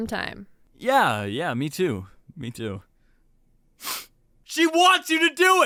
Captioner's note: sniffles